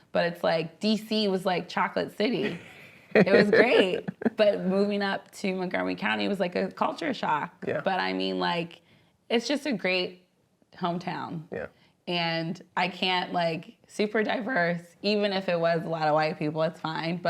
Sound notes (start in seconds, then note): 2.4 laughs